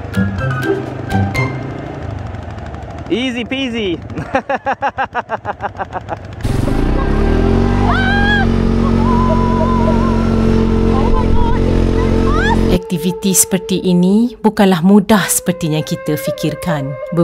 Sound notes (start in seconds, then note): 4.1 laugh; 7.6 scream